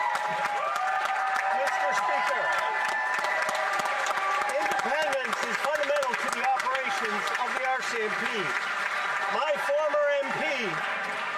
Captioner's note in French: applaudissements; voix de l'interprète